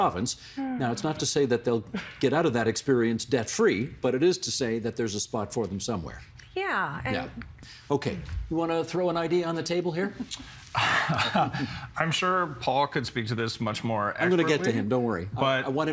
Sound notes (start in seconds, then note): 10.8 laughing